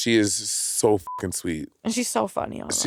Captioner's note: beep